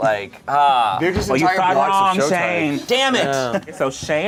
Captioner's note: overlapping chattering